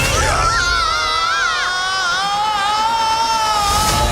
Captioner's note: screaming